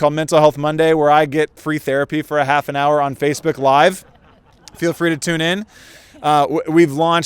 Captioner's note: audience laughter